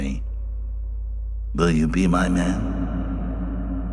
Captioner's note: echoing